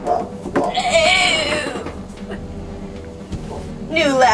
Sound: dying noise

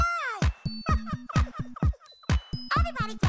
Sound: laughs

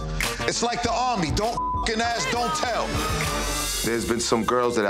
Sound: beep

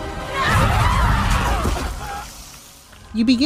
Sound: people scream

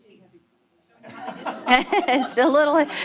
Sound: laughter

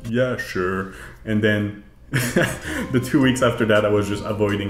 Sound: laughs

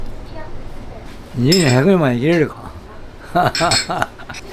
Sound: laugh

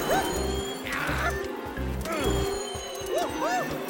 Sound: shouting

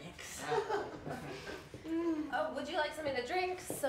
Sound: chuckling

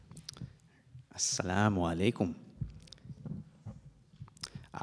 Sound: speaks in Arabic

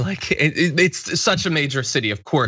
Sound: laugh

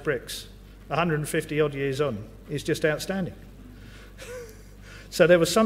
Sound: laugh

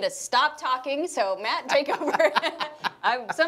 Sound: laughing

